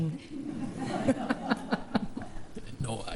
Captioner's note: attendees laughing